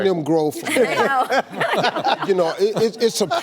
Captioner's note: laughs